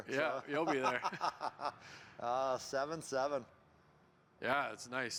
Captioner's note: laughs